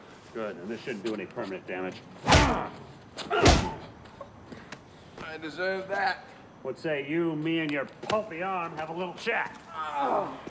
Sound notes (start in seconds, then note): 3.3 grunting; 9.6 groaning